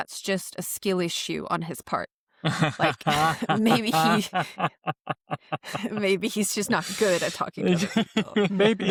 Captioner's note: laughs